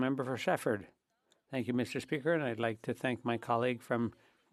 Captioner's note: speaking French